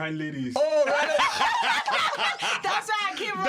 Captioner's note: laughter